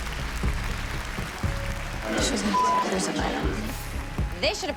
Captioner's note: applause, cheering